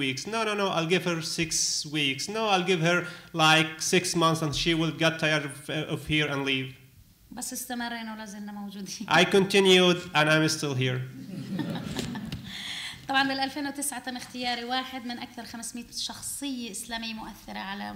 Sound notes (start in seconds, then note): 7.3 speaking arabic; 11.2 laughter; 12.1 speaking arabic